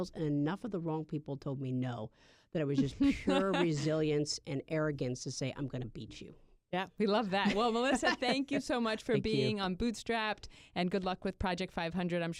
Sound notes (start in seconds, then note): 2.8 laughter